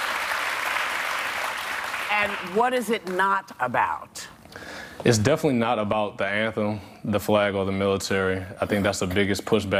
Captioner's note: applause